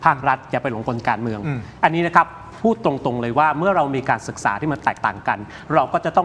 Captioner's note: clears throat